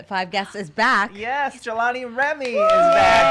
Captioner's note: clapping and cheering